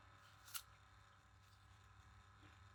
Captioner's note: crunch